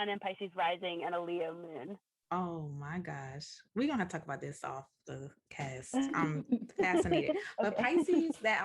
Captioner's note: laughter